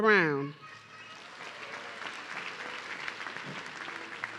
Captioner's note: audience clapping